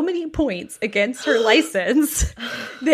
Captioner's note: gasps